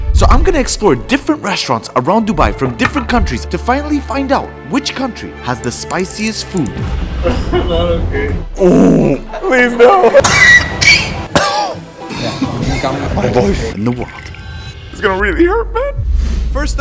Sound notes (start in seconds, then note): 11.0 coughs